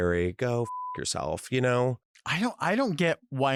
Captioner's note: beep